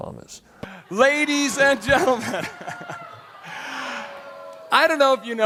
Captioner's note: laughs